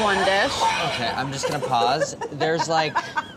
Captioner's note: laughing